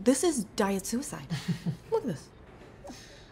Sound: Declan laughs

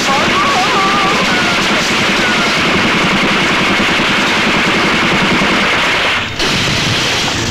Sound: rapid gunfire; bomb explodes

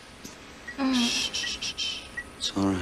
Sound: Meg murmurs

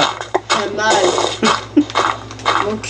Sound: laugh

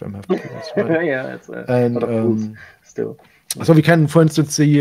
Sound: laughs

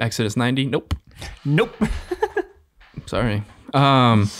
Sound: laughing

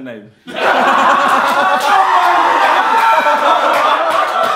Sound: audience laughing

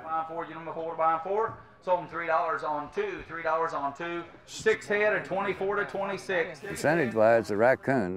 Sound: auctioneering

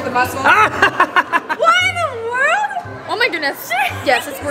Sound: laughing

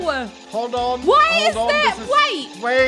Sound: ghasts continue

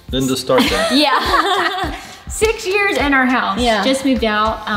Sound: laughs

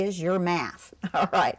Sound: laughter

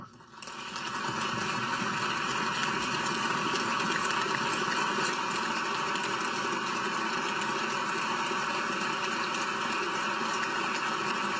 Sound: applause

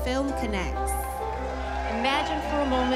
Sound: cheering

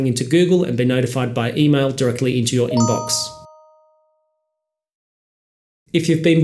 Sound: email bell sound

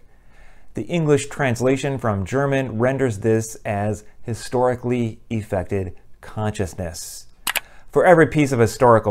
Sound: mouse click

